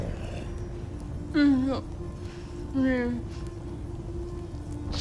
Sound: grunting

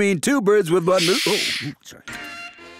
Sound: shushes

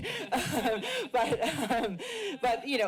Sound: laughs

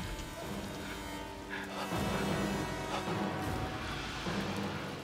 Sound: hesitantly; tense breaths

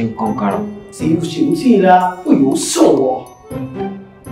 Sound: speaks in Mandarin

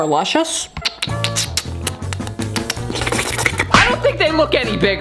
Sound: lip smacking sounds

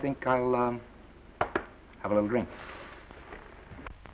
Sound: knocks on counter twice

